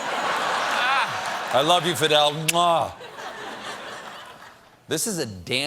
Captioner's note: laughter